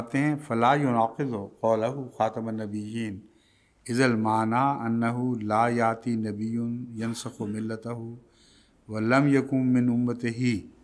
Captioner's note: Arabic